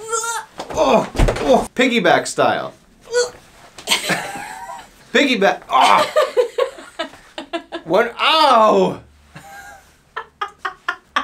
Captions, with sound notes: (grunting) Piggyback style. (grunting and laughing) Piggyback. (grunting) (laughing) Ou!